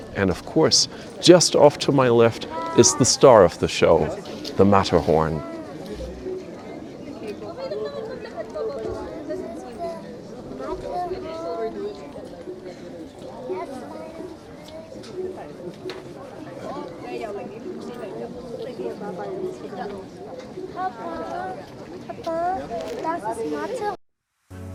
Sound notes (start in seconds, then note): 6.0 people chattering